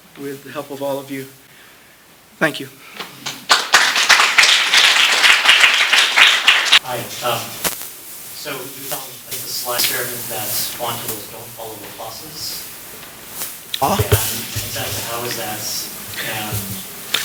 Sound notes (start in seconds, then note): 3.2 applause